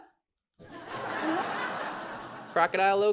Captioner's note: audience laughs